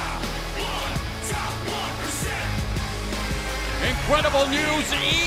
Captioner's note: crowd cheering